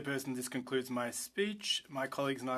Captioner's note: speaking French